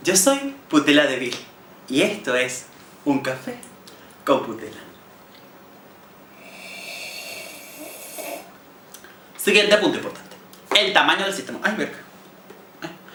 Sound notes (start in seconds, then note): 6.3 sips loudly